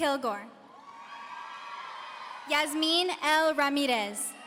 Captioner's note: audience cheering